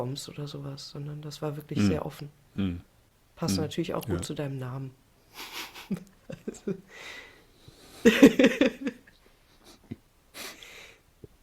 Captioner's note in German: gelächter